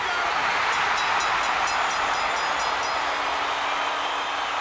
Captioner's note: audience cheering